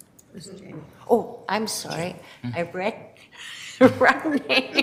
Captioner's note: laughs